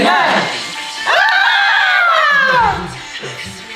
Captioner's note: scream haha